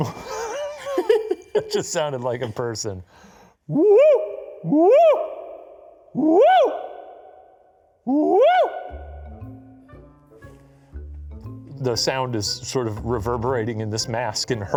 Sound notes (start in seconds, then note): 0.0 both laughing; 3.7 howling; 8.7 playful music